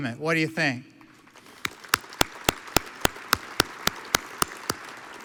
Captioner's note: audience applauds